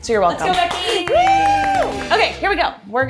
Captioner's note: crew clapping